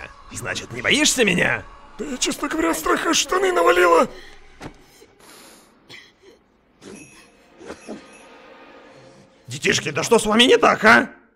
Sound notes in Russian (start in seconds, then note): 6.8 звук бубенцов